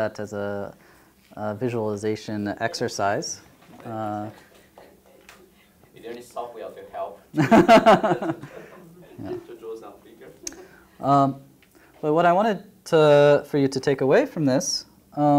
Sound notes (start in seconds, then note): 7.3 laughter